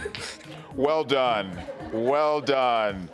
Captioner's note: all laughing